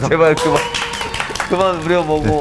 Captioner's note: applause